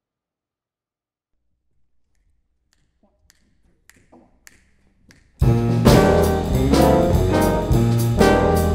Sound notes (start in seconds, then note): 2.6 snapping fingers; 5.4 funky upbeat music